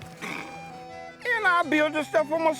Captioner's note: growls